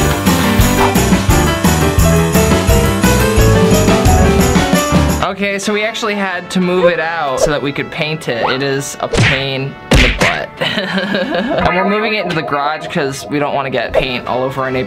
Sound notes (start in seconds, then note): 10.7 chuckling